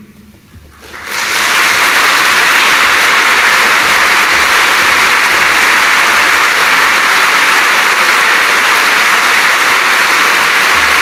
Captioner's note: applause